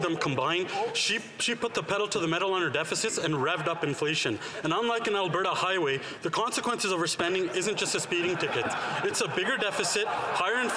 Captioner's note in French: voix de l'interprète